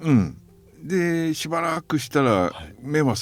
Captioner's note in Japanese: 咳払い